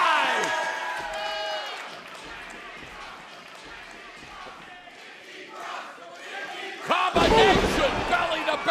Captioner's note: crowd cheering